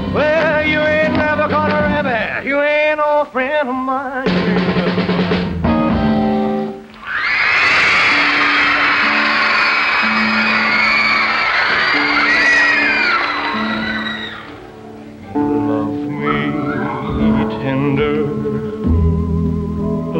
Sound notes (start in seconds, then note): 7.2 crowd screaming